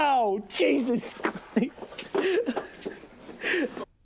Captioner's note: sobbing